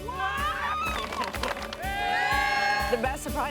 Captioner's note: crowd cheers; clapping